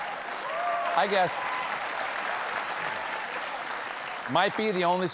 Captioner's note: applause